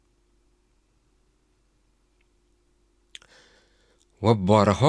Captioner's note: sigh